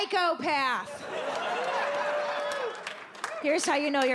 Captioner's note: audience laughs